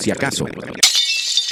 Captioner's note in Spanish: Sonido cristal roto